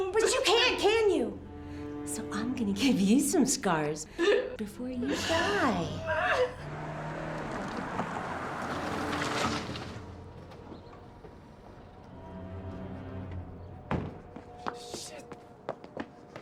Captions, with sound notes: - But you can't, can you? So I'm gonna give you some scars before you die. (engine revving) (soft dramatic music) - Shit.